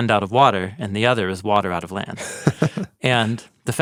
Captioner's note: chuckles